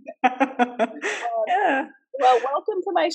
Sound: laughs

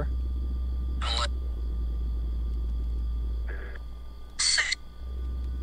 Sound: Necrophonic app screeching

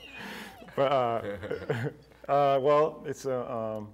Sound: laughing

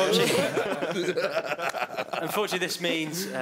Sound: wicked laughter

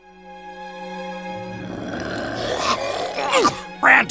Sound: A Left 4 Dead Hunter gurgling and a Smoker coughing

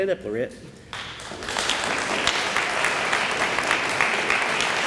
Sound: audience applauds

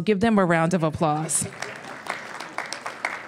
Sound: applause

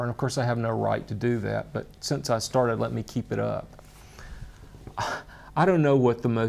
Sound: sighs

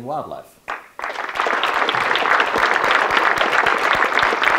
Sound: audience clapping

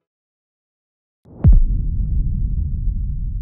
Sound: audio hit

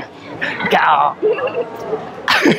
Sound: lion roar in Japanese

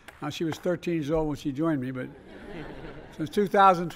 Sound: laughter

